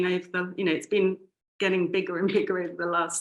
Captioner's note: chuckling